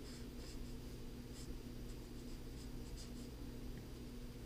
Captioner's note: pen writing on paper